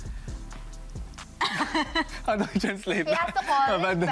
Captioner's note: giggles